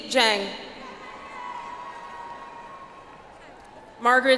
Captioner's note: audience applauds